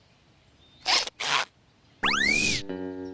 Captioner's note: squeaking